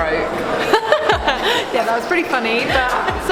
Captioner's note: laughing